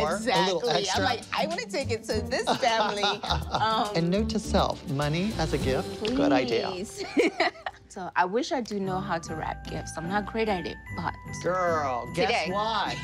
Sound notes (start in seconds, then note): 2.5 laughing; 7.0 laughing